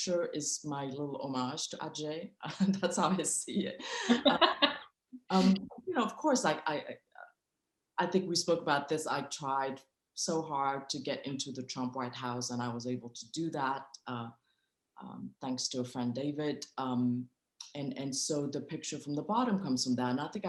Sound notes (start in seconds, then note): 3.9 laughing